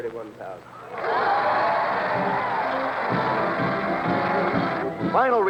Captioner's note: cheering and applause